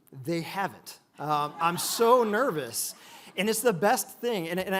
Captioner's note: audience laughs